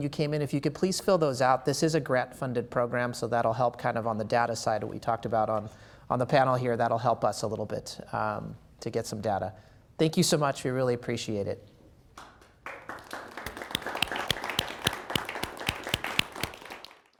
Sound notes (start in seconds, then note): 15.8 applause